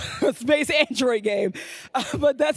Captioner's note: laughs